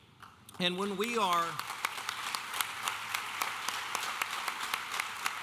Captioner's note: audience applauding